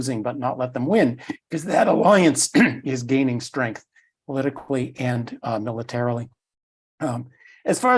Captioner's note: cough